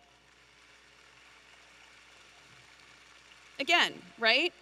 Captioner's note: audience applauding